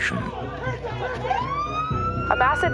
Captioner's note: men shouting, siren wails